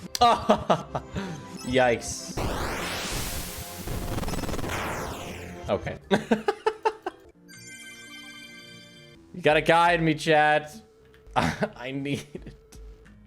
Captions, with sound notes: Ah hahaha! Yikes. Okay. (Laughs) You gotta guide me, chat. I need it.